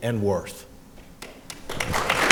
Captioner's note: applause